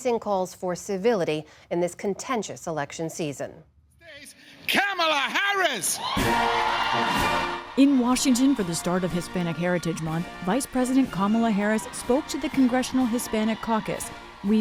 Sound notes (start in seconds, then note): 7.8 applause; 7.8 cheering